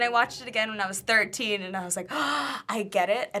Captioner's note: gasps